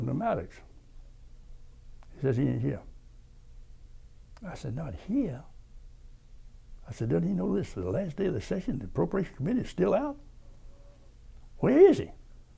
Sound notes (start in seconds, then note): none